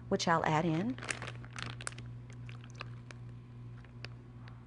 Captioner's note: soy sauce pours